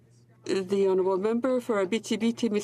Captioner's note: speaking French